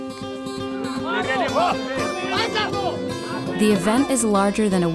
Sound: yells in foreign language

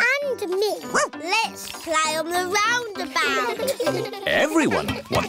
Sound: barks; laughter

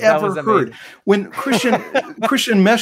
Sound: laughs

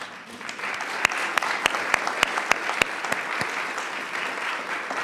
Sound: attendees applauding

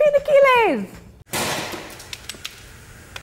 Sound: egg splats

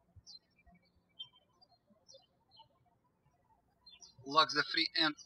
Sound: birds chirping

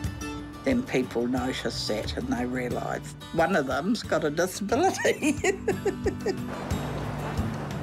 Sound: laughs

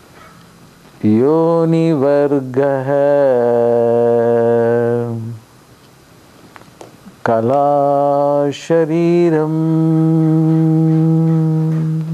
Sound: chants

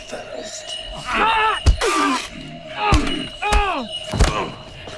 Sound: grunts, thuds

